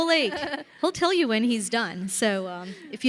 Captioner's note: chuckling